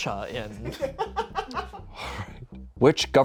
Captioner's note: crew laughs